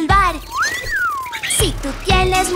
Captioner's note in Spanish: Silbido